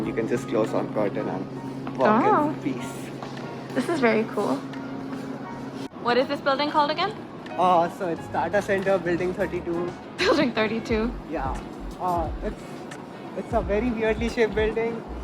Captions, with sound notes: you can just close one curtain and work in peace. Oh. This is very cool. What is this building called again? So it's stata centre building 32. *Laughs* Building 32. Yeah, it's a very weirdly shaped building,